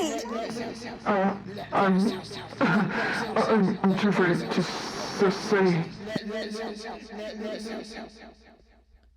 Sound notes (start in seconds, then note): 2.9 cough